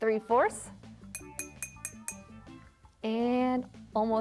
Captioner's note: jar tinking